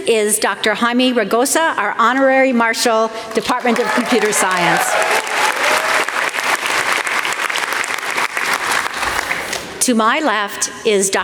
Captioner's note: applause